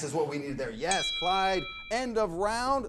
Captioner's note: bell dings